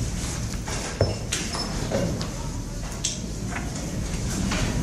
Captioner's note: people rustle